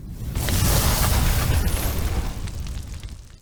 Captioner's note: fire blazing